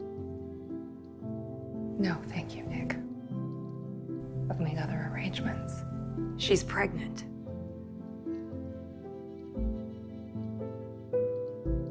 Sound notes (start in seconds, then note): 6.6 voiceover